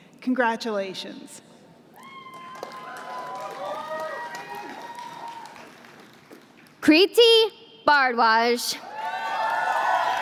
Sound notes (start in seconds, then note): 2.2 applause